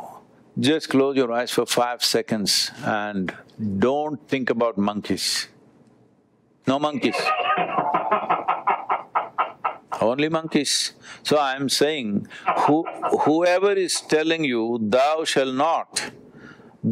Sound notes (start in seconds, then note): 7.0 Vusi laughs